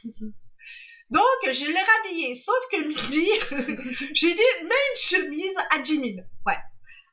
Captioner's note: laughs; laughs